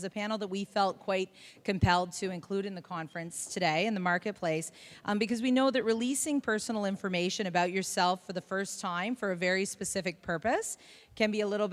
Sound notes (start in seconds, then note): none